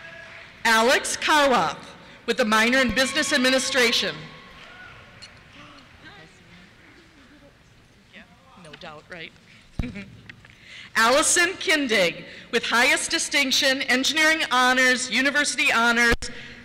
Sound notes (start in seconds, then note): 2.6 cheers; 9.7 laughter